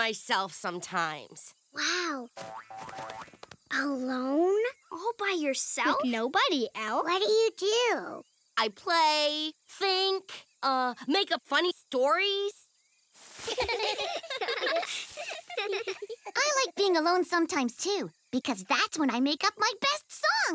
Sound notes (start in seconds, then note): 13.4 giggling